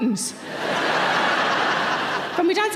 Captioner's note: audience laughing